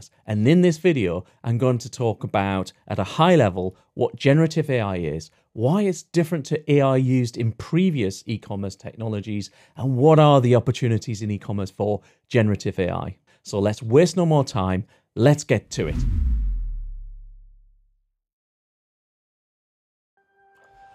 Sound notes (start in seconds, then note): 15.7 air whooshes